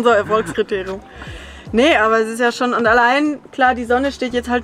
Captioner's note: laughs